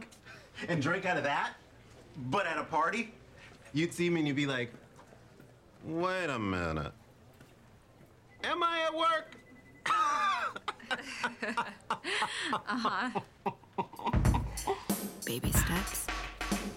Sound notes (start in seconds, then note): 9.8 laughs